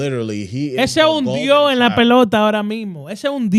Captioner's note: speaking In Foreign Language